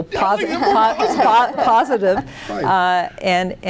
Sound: laughing

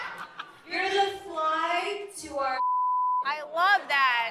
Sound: beep

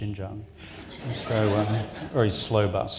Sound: audience laughs

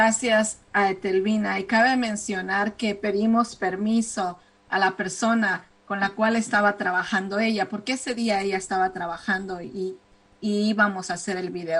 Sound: speaking spanish

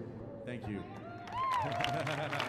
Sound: audience applauding; laughing

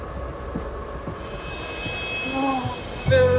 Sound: shivering

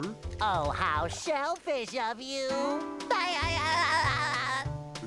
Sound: laugh

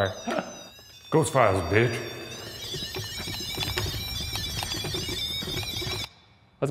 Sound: tool beeps like electric guitar

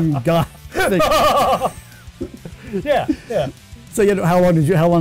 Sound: laughing

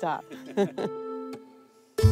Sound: chuckling

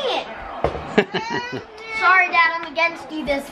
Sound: laughter

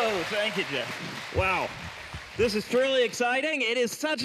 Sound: applause

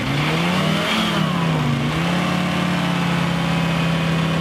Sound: engine straining

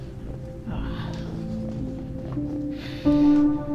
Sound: sighs

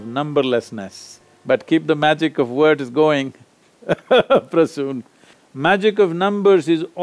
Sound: laughs

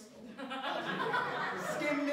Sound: laughter

